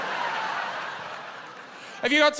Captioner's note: laughter